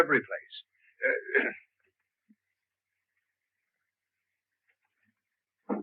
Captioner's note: Merrydew coughs